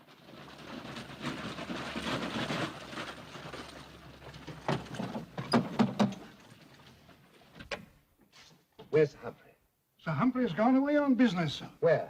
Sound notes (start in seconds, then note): 0.1 horses bustling; 5.5 knocking on door; 7.6 door opens